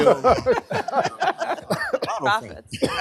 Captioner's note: laughter